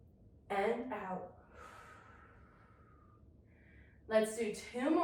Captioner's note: inhales deeply; exhales deeply